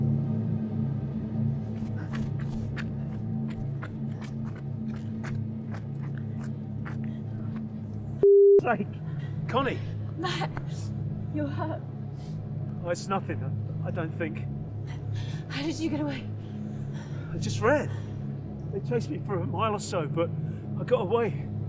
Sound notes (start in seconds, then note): 1.6 footsteps approaching